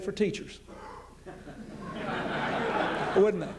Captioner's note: laughter